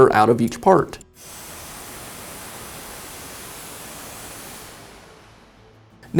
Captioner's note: compressed air hisses